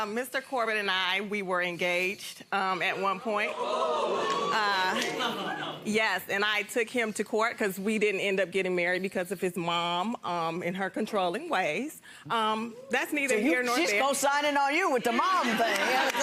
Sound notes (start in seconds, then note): 3.9 audience oohing